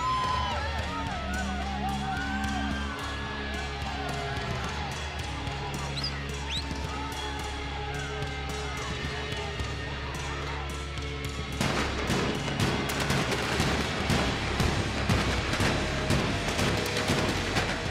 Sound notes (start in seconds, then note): 2.3 crowd cheering continues; 2.3 upbeat rock music continues; 11.5 fireworks popping